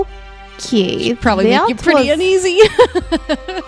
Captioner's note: laughs